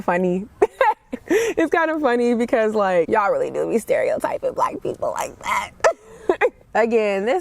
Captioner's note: laughs; laughs